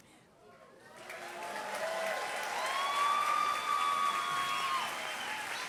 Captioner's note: applause, cheers